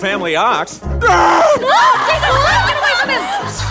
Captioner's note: screams; tortured moan/roar